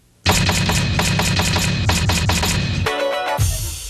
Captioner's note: letters banging; upbeat music